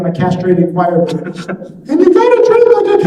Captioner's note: laughing